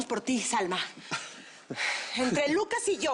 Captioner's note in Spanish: Lucas ríe